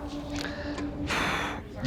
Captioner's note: sighs